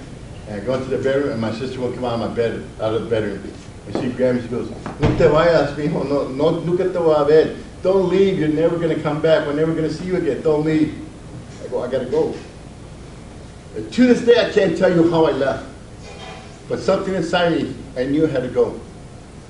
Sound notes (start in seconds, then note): 4.8 speaks Spanish